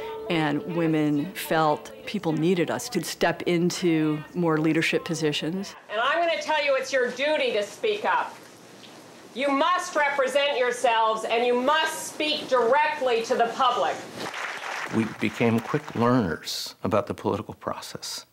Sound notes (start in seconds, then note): 14.2 applause